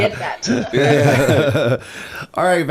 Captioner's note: laughter